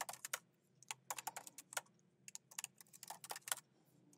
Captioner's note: keyboard clacking